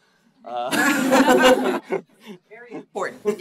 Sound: audience laughs

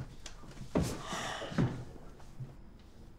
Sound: sigh

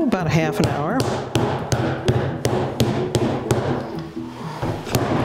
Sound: rolling pin pounding

